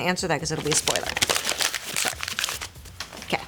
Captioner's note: paper crunching